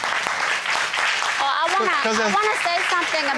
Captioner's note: audience applauding